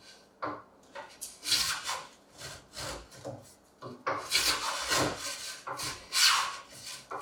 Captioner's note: blade on wood continues rhythmically scraping